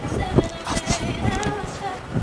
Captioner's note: huff